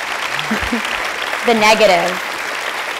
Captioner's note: applause